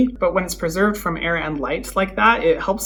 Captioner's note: none